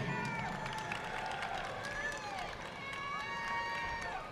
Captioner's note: audience clapping